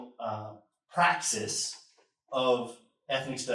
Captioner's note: none